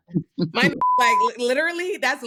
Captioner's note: beep